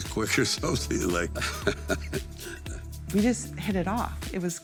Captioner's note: Sylvester laughing